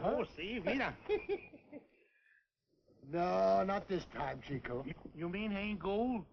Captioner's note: laughs